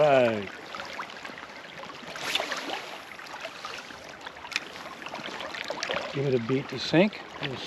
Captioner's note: reel spinning